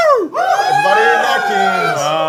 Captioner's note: everyone is cheering